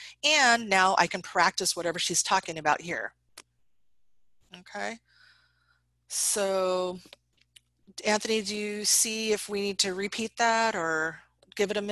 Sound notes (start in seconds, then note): none